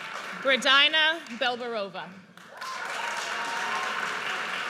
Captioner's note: audience cheers